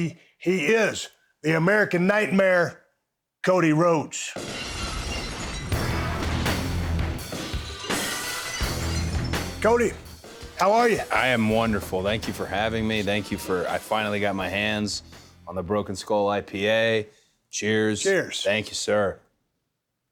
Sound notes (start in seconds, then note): 4.4 glass shatters; 6.0 upbeat rock music